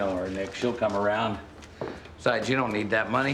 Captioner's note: none